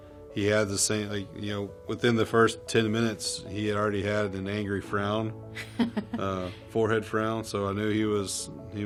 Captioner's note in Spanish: se ríe